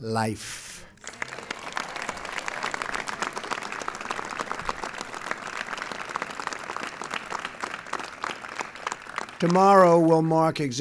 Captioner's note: applause